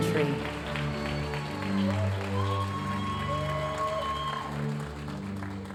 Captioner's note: audience cheering and applauding